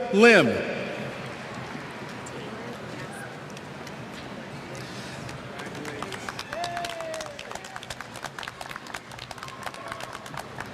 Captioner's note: applause